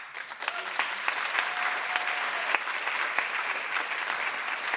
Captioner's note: audience applause